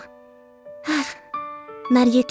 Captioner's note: sigh